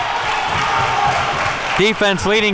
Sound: applause

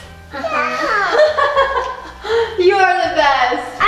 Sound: laughing

